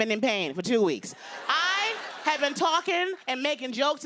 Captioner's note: laughter